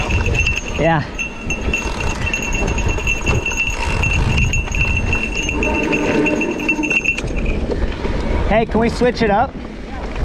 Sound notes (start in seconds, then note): 2.3 bike ratchets